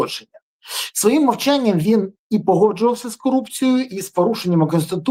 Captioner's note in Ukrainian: сопіння